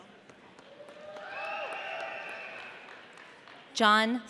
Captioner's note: audience cheering